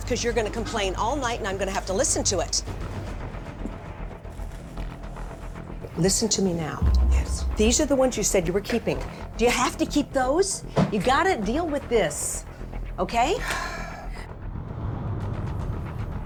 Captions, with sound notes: going to complain all night, and I'm going to have to listen to it. Listen to me now. Yes. These are the ones you said you were keeping. Do you have to keep those? You've got to deal with this, OK? [sighs]